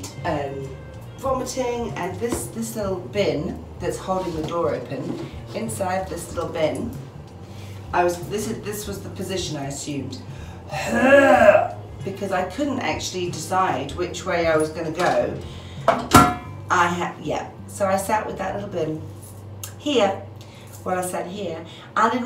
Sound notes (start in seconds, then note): 10.6 imitates throw up noises